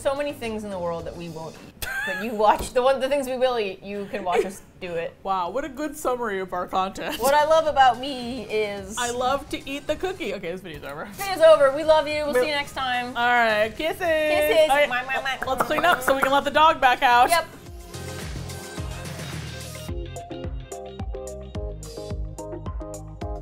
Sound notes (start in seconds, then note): 1.8 laughs; 15.4 mouth popping sounds; 18.3 upbeat music